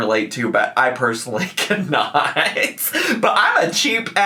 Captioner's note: laughs